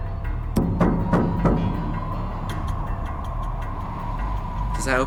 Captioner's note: hand banging on door